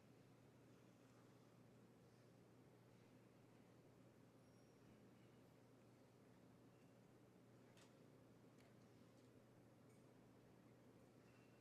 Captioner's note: speaking French